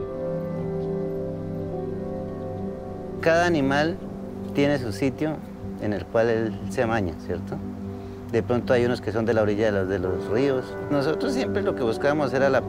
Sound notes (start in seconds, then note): 3.3 speaking in foreign language